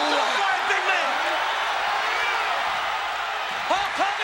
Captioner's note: crowd cheering